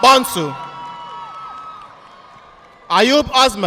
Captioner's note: audience applauding